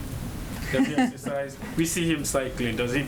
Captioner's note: laughs